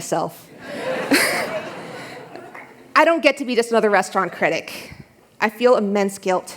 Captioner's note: laughter